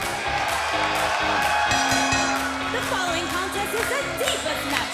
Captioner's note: bell ringing